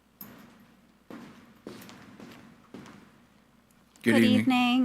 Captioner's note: footsteps thumping